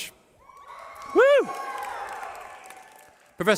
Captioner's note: cheering